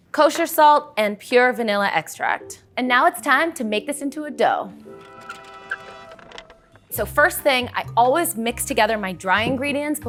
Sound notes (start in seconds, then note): 4.9 horns; 4.9 cart wheels